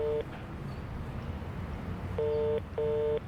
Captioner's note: phone ringing